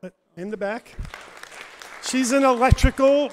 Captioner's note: audience applauds